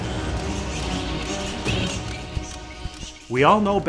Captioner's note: bats chittering